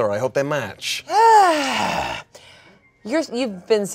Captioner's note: groans